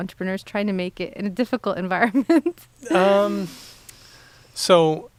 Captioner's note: laughing